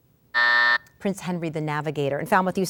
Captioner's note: buzz